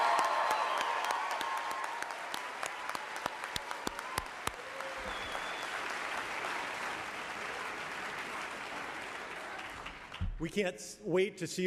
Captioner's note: cheering and applauding